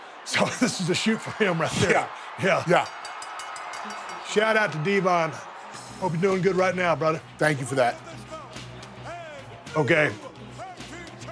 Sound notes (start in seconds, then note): 2.5 bell rings